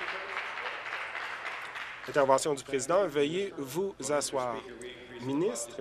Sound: applause

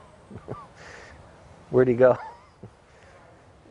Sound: laughing

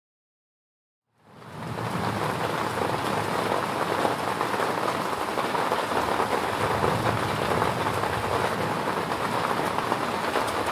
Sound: sound of moderate rain

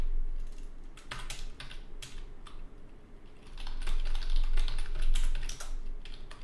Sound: typing sounds

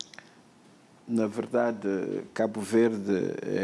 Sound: speaking portuguese

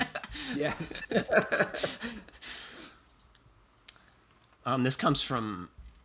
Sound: laughs

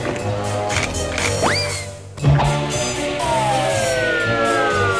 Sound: sliding sound effects

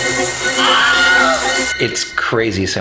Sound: screams

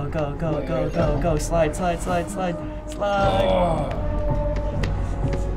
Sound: grunting

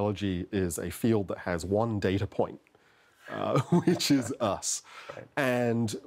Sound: laughter

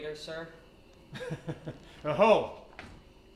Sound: laughs

